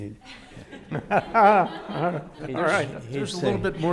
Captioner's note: audience laughing; laughing